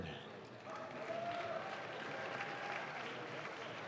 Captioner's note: audience claps